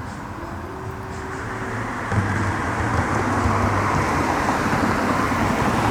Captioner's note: cars driving on pavement